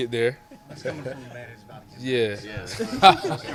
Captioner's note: reporter speaks softly; laughs